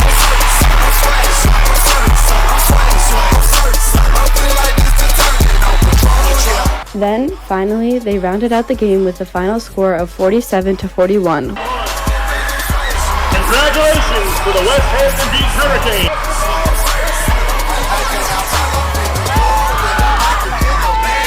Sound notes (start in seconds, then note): 0.0 crowd cheers; 3.5 upbeat rap music; 12.1 crowd cheers; 17.6 upbeat rap music